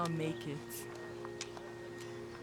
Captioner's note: birds chirping